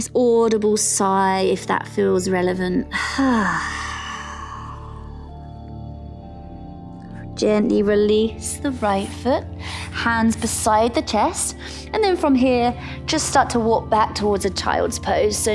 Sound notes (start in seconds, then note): 2.9 sighs; 6.1 calm music